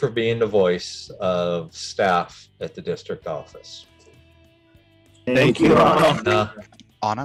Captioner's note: speaking together